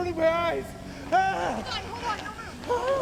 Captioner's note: yelling